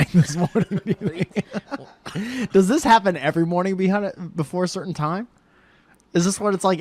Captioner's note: laughs